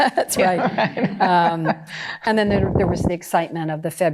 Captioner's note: laughter